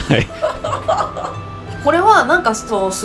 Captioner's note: haha